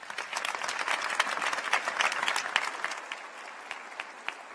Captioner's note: applause